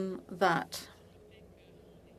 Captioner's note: speaking French